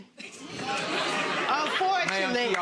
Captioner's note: audience laughing